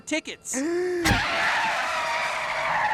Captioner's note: brakes skidding